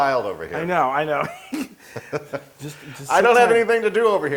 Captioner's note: laugh